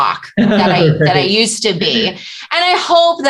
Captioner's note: laughter